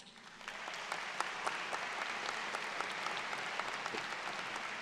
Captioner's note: audience claps